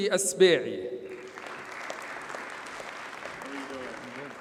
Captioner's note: audience applauds